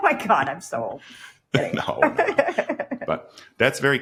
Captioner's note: laughs